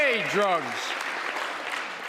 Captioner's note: applause